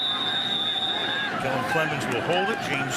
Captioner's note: whistle blowing